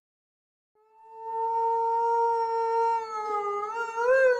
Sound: wolf howling

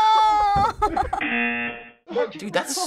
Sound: laughs; buzzer

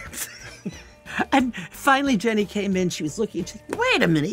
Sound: both laugh

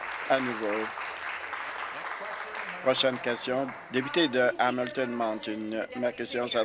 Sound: applause

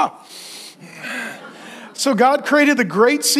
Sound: congregation laughing

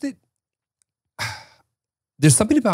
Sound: sighs

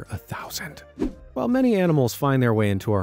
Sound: air whooshing

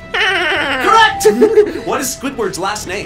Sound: electronic bell chimes

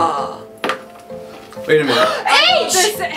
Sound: gasps

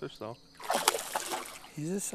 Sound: splash

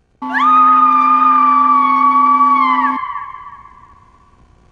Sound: Shelley screams

